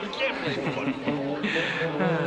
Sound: Howard chuckles; Sheila laughs; Howard sighs

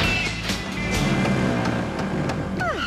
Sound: engine Revs

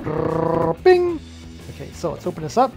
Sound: mimics drum roll

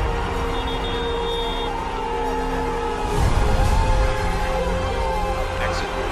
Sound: whistle

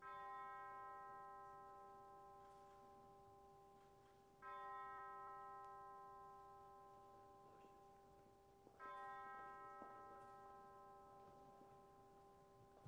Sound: bells tolling

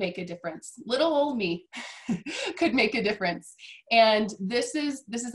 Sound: laughs

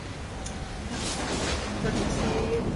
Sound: thunder clapping

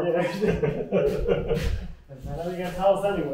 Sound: laughing

